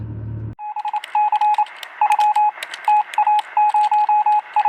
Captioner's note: electronic beepings